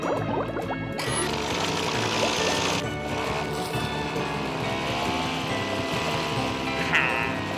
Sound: roaring engine

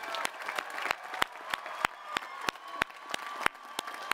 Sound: audience applauding

